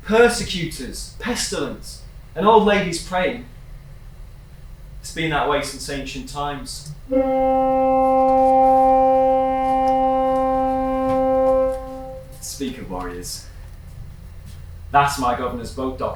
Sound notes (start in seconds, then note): 7.0 horn blowing